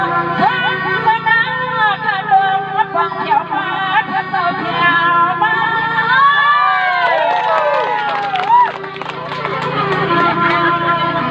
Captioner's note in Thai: ปรบมือ